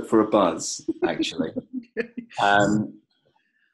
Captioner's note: laughs